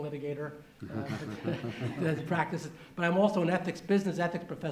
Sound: laughter

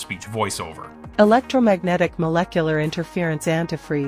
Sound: robotic Female Voiceover

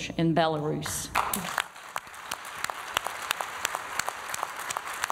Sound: applause

